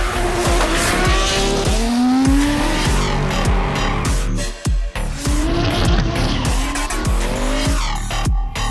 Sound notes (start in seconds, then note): 3.3 engines rev